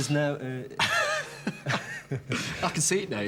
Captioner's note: laughing